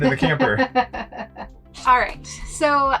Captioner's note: laughs